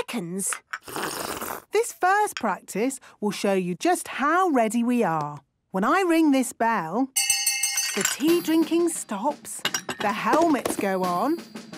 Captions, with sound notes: - (slurping) - This first practice will show you just how ready we are! When I ring this bell... - (hand bell ringing) - ...the tea drinking stops. - (tea cups clinking) - The helmets go on.